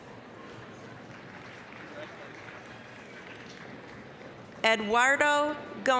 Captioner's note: applause, cheering